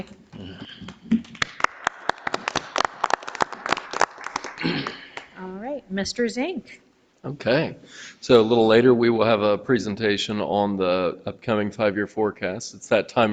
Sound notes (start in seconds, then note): 0.8 audience applauding